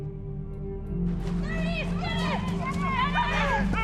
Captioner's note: crowd